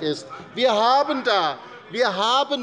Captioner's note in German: Zurufe von der CDU